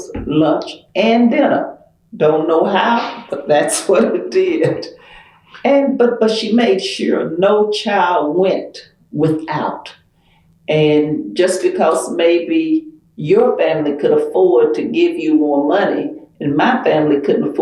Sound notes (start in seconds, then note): 5.8 laughs